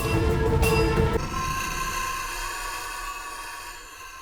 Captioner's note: beast shrieks